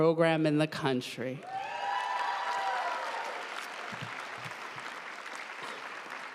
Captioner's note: audience cheering and applauding